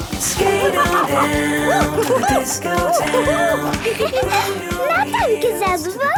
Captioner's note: laughing and exclaiming